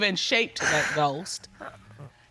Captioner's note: sobs